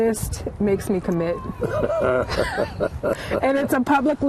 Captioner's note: laughter